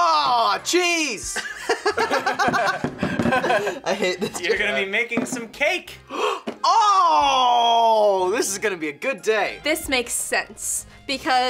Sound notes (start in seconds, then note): 1.3 both laugh; 6.0 gasps